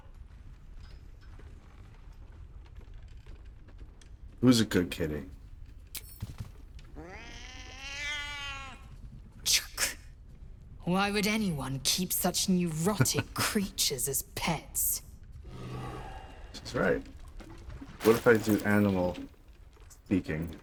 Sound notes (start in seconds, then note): 9.4 laughs